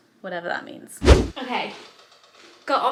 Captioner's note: video swooshing